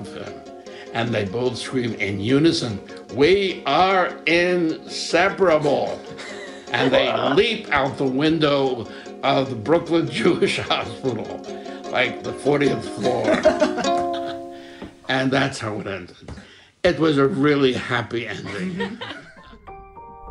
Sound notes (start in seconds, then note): 16.7 laughter